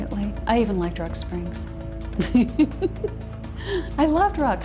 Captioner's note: laughs